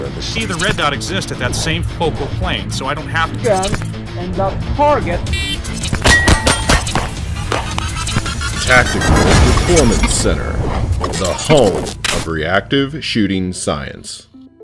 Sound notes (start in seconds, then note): 5.5 camera beeps; 5.5 gun firing